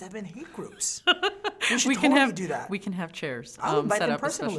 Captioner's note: laughing